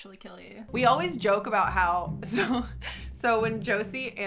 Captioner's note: laughs